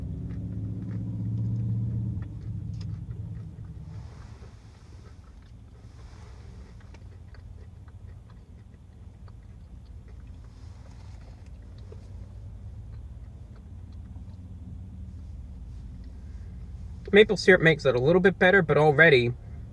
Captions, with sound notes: [Chewing noises] [More chewing noises] Maple syrup makes it a little bit better But already you